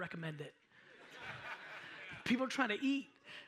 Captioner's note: audience laughs